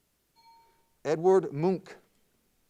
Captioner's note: timer bell dings